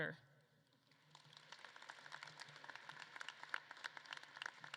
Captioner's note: audience claps